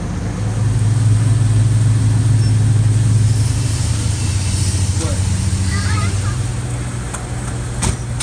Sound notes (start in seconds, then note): 0.0 ambient gas station noises